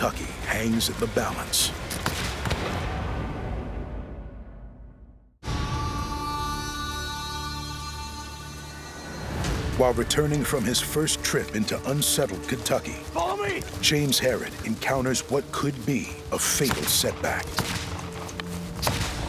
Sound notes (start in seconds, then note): 2.0 gunfire; 18.7 gunfire